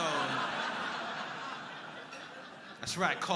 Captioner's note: crowd laughing